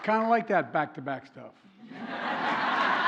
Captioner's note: laughter